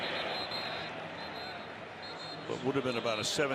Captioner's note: whistle blowing